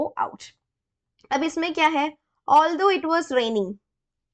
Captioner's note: explaining in hindi